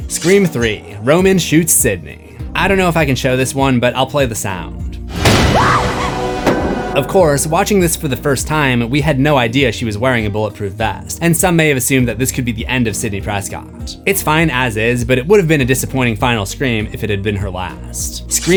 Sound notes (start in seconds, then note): 5.2 screams